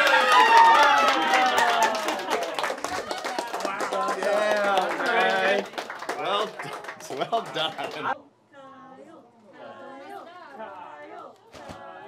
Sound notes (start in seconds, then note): 0.0 applause, cheering; 8.5 chanting